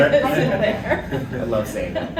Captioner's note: laughs